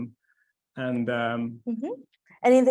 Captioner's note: stammering